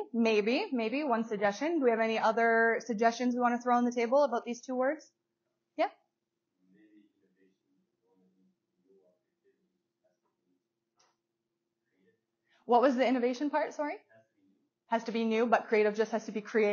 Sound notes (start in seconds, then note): 8.0 speaking softly